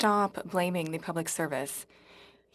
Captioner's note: speaking French